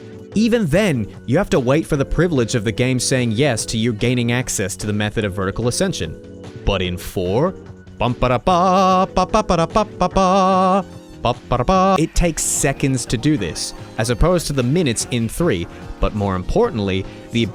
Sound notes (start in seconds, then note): 8.7 hums theme